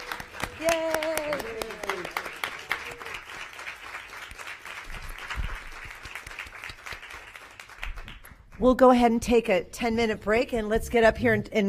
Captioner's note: applause